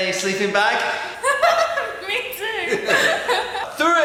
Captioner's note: chuckles